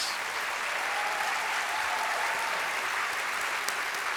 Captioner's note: audience applauding